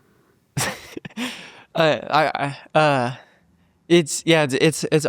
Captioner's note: laughs genuinely